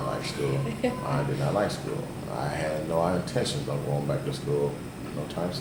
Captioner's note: laughs